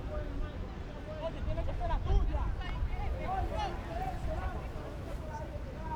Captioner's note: players yelling in foreign language